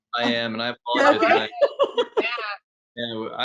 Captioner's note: laughing